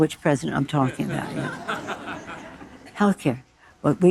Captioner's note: audience laughing